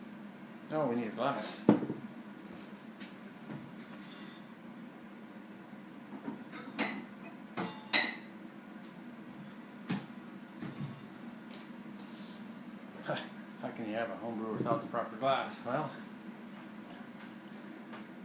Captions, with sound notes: Oh we need a glass. [glass clanking] How can you have a home brew without the proper glass? Well,